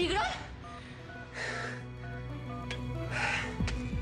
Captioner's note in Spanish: sonido al marcar los números